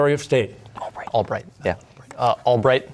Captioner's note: whispering